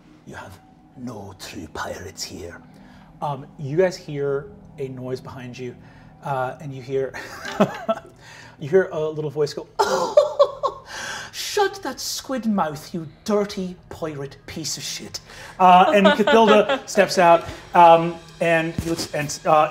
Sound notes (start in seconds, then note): 7.2 laughing; 10.5 laughing; 15.6 laughing